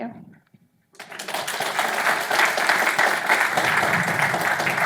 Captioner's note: audience clapping